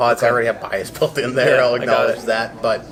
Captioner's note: laughs